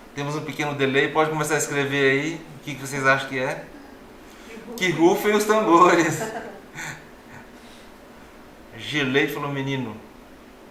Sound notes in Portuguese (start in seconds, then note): 5.9 risos